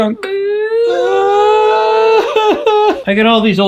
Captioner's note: both sobbing